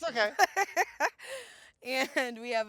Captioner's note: laughs